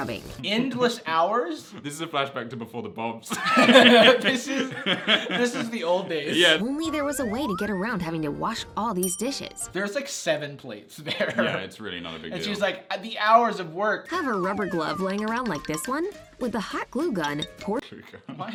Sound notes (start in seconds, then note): 3.3 laughs